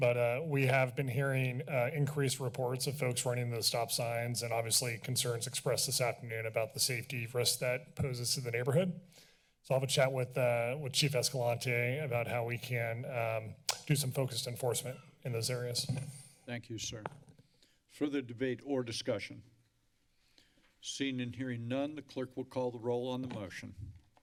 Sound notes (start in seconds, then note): 13.3 clicks tongue